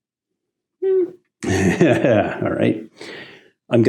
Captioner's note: laughs